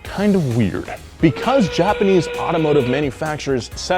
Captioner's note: horn blares